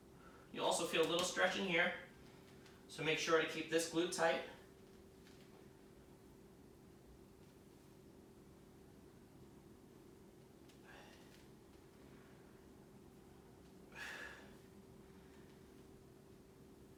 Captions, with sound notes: You'll also feel a little stretch in here so make sure to keep this glute tight. [inhaling and exhaling]